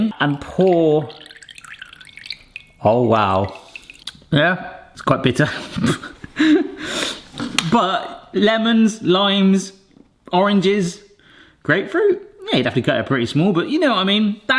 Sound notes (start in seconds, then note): 0.0 juice trickles; 5.5 snickers